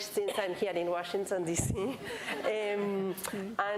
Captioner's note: laughs; laughter